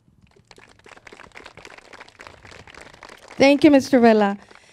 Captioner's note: crowd claps